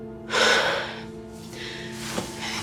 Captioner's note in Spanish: suspiro